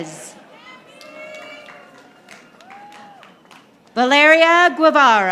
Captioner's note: audience applauding